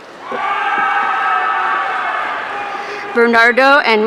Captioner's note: audience cheering